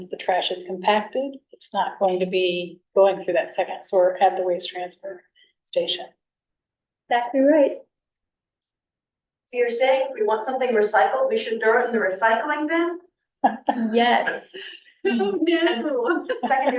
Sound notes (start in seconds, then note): 8.2 sarcastic voice